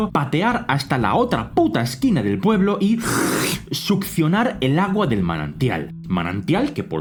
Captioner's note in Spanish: succión